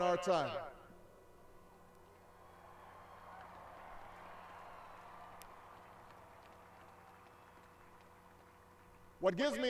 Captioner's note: cheers